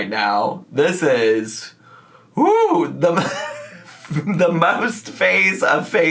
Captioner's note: laughs